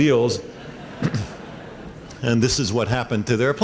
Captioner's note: laughter